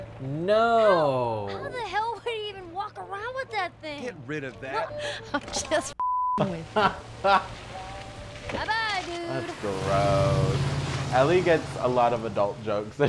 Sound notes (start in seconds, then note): 6.0 beeping; 6.4 chuckling